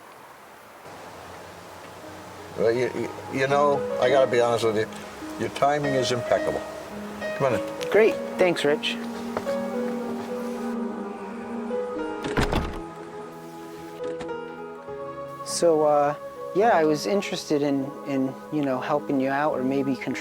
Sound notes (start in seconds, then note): 12.2 door closes; 14.0 lock clicks